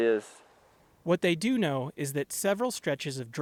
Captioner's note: voice-over